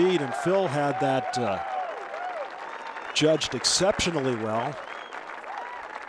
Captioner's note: cheers